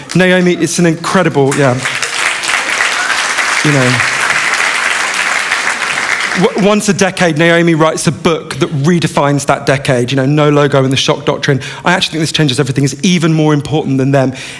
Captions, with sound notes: Naomi is an incredible, yeah. [ Applause ] Once a decade, Naomi writes a book that refines that decade. You know, no logo in the shop doctrine. Actually, "This Changes Everything" is even more important than them.